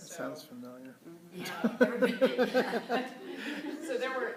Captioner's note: laughter